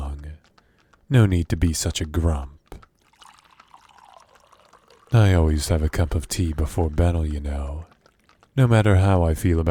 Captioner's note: tea pouring